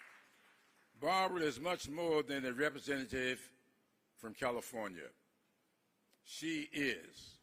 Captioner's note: applause